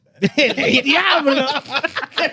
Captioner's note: laughter; speaking Spanish